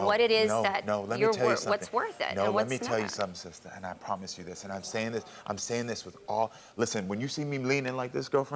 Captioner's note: none